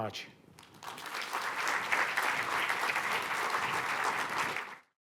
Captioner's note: applause